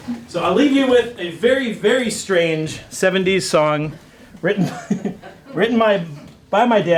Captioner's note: laughs